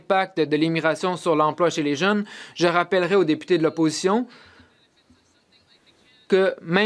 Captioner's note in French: voix de l'interprète